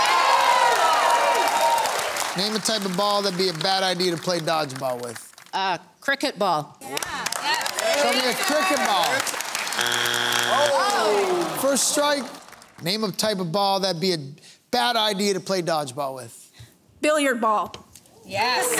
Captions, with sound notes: [Cheering] Name a type of ball that'd be a bad idea to play dodgeball with. A cricket ball. Show me a cricket ball. [Crowd groaning] First strike. Name a type of ball that'd be a bad idea to play dodgeball with. Billiard ball.